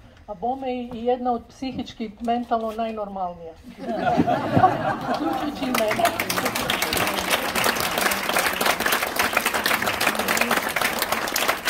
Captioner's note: applause…